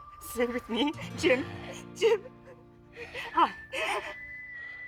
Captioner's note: sobbing